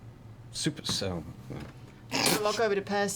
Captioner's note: snorts